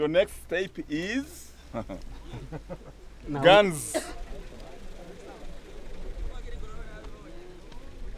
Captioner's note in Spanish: ríe